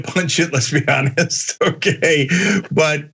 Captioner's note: laugh